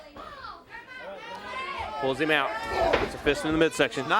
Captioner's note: crowd chatter